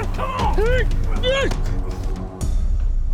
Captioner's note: struggling